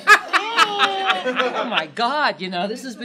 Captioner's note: laughter